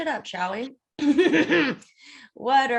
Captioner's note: gremlin giggle